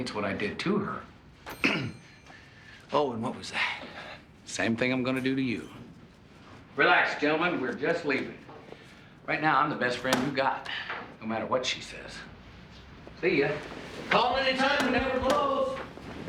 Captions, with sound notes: - It's not what she saw in me, it's what I didtoher. (clearing throat) - Oh, and what was that? - Same thing I'm gonna do to you. Relax, gentlemen, we're just leaving. Right now I'm the best friend you've got, no matter what she says. See ya. - Call anytime! We never close!